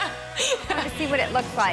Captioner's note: laughing